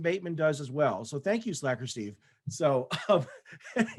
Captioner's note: laughs